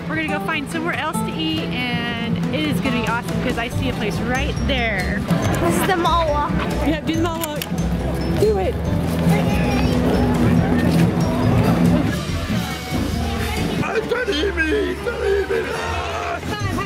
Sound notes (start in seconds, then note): 15.1 screams